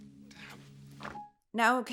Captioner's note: door swings open